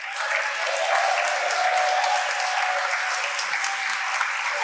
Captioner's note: audience applauding